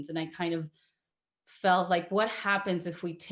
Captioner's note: none